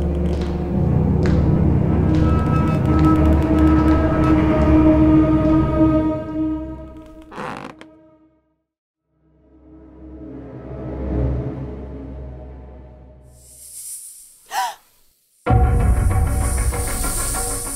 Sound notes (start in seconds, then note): 9.3 dramatic music; 14.5 gasp; 15.5 the hissing of snakes